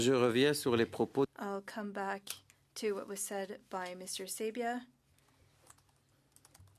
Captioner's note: speaking French